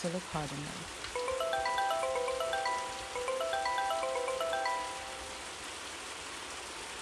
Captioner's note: phone ringing